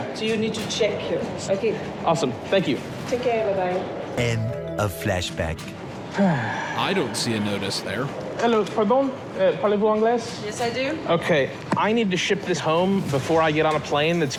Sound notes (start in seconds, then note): 6.1 sighs